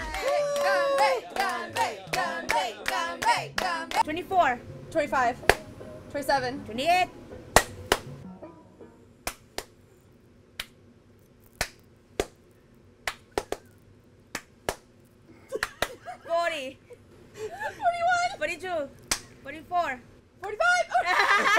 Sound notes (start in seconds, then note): 7.6 claps; 9.8 both clap; 19.2 claps